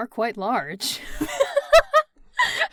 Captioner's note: laughs